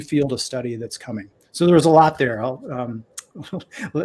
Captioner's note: laughter